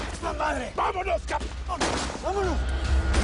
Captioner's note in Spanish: Disparos